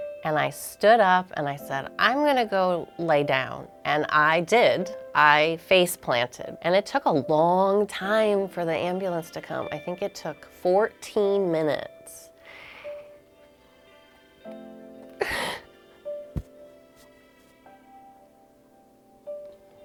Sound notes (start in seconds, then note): 15.2 sobs